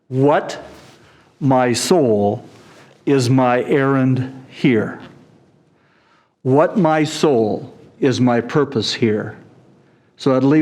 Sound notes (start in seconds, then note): none